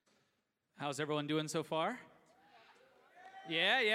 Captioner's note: cheering